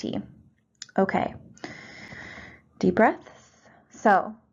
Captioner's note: inhales